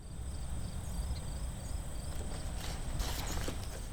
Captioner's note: crickets chirping